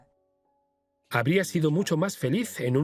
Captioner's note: voiceover